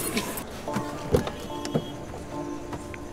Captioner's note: Car door opens